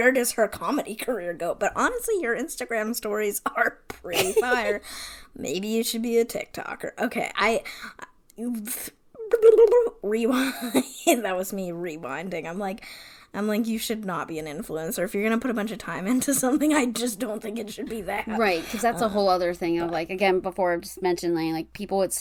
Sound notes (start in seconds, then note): 8.2 mouth noises